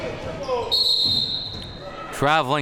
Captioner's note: whistle blowing